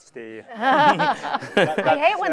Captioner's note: chuckling